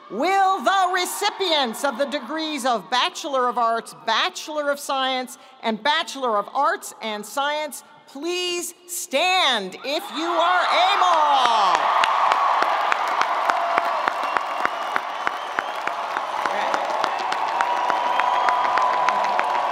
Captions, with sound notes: Will the recipients of the degrees of Bachelor of Arts, Bachelor of Science, and Bachelor of Arts and Science, please stand if you are able! (audience cheering) (audience applauding)